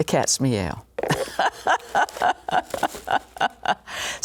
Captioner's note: laughs